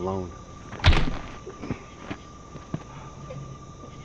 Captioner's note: hammer thuds